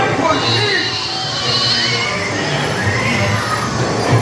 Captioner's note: sheep sounds